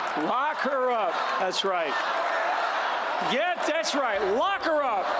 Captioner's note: cheers & applause